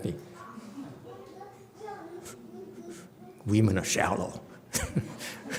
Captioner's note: laughs